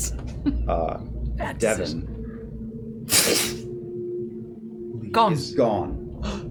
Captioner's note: whoosh